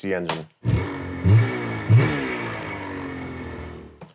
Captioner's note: engine revving